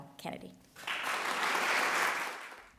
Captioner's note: applause